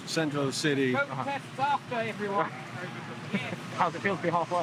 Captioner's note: man 2 laughs